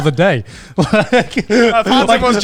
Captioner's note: laughing